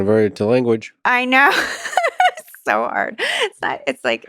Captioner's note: laughs